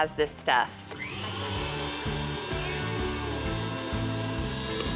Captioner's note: mixer whirring